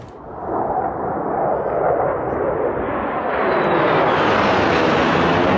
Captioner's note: jet engines roaring